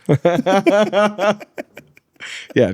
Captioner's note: laughs